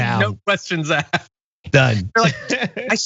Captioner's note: laugh